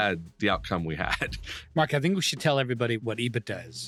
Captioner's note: laughs